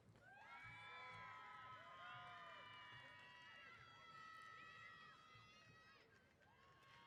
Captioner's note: applause & Cheers